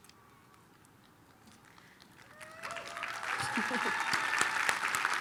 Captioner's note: applause